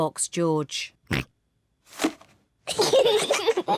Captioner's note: snorts; kids giggle